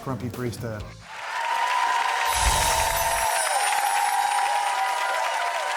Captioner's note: audience applauds